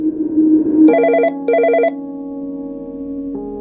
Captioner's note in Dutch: telefoon gaat over